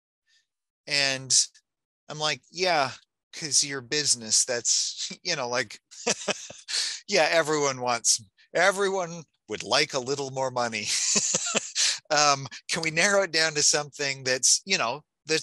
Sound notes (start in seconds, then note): 6.0 laughing; 10.6 laughing